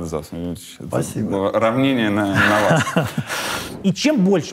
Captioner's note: chuckles